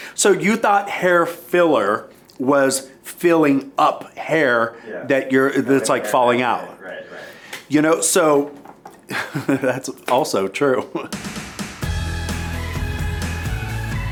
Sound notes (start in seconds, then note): 9.0 chuckling; 11.1 upbeat music